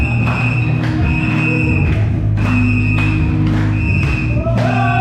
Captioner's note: whistle blowing; cheering